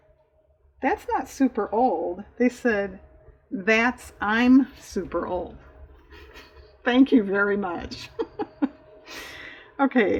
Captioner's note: laughs